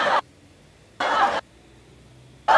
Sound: laughter

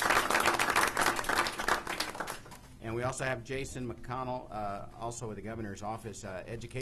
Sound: applause

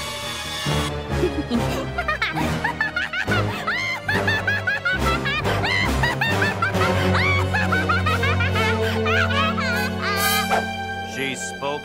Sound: laughing

